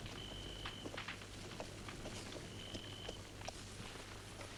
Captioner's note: hooves clopping